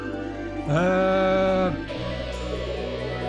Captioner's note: batteries low